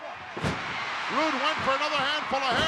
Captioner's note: body thuds